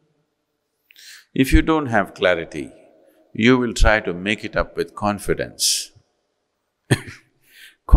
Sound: laughs

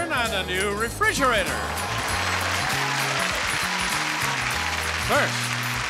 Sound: audience applauds

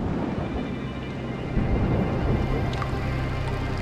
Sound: thundering

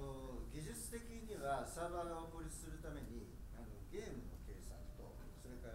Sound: speaking in foreign language

